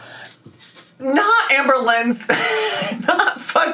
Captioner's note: laughs